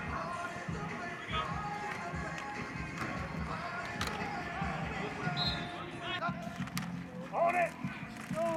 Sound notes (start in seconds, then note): 5.3 whistle blows